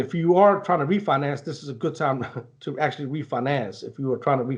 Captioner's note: chuckles